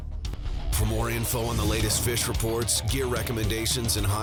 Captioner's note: voiceover